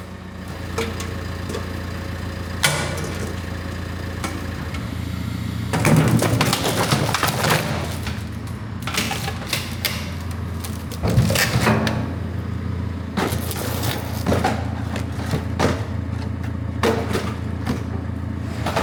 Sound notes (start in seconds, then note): 5.7 metal crunches; 14.4 metal clanks